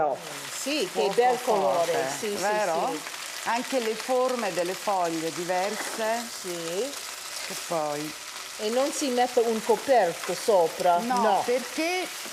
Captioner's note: speaking Italian